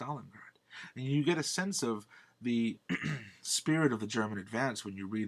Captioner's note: clears throat